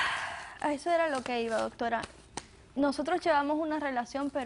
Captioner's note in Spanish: Ella exhala